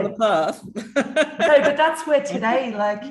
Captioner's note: laughs